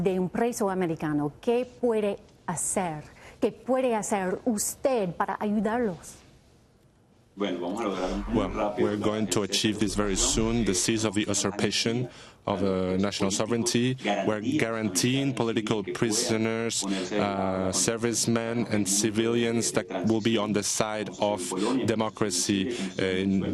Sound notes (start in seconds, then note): 5.4 speaking spanish